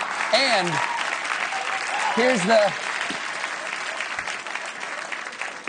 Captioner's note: applause; laughter